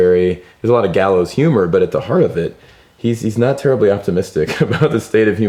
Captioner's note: laughs